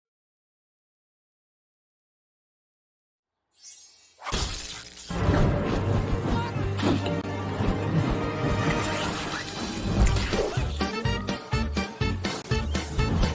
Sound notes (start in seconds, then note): 4.0 звон стекла; 4.0 электрическое жужание; 6.0 драматическая музыка; 9.3 веселая музыка